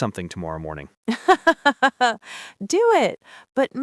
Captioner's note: laughs